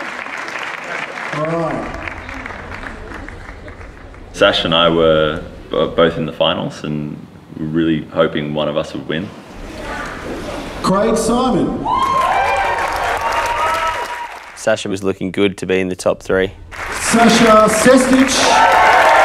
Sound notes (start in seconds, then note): 11.8 cheers and applause